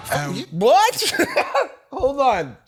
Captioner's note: laughs